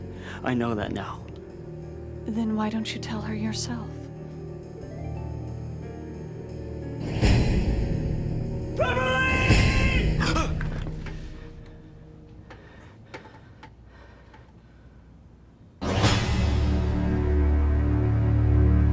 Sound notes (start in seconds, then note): 10.0 gasps; 12.4 breathing heavily; 15.8 tense music